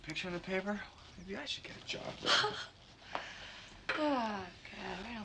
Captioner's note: Ellyn laughs